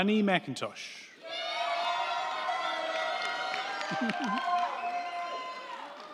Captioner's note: crowd cheering; crowd clapping